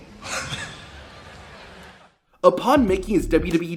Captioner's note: R-Truth laughing